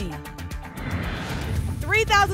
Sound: whoosh

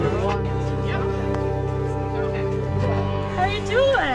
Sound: crowd chattering

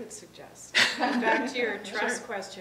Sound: laughing

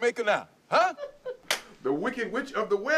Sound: laughing

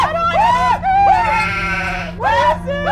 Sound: more 🐑🐑🐑 sounds

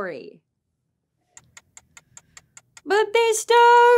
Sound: clock ticking

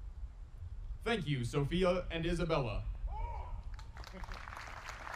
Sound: audience applauding

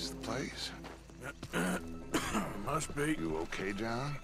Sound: coughs

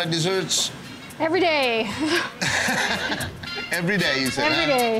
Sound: judges laughing

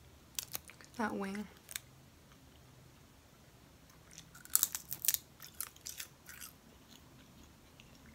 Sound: tortilla chip crunch

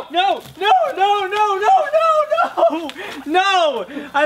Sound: laughs

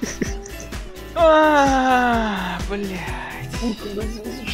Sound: sigh of despair

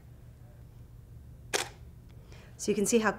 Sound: camera shutter clicks

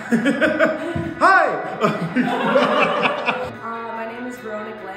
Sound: laughter

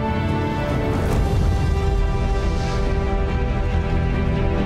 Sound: triumphant music; explosion

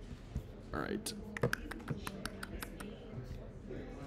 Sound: clicking

